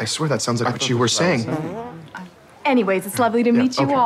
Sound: farts; laughs

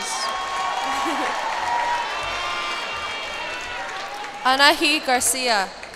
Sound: cheers and applause

